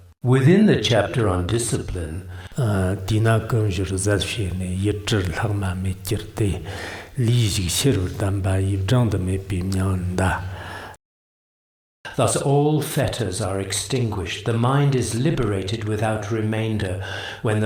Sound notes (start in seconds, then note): 2.5 giving oral transmission in Tibetan